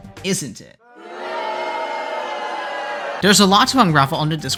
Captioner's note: boooooooooo